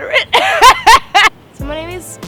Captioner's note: laughs